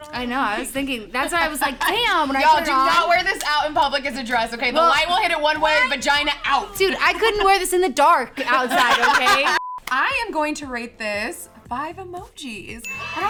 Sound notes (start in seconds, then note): 8.4 laughs; 9.5 beep